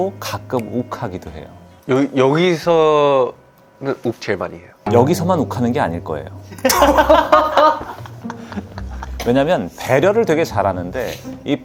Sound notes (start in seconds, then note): 6.5 warm but angry